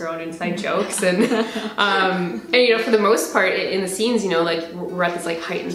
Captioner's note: both laugh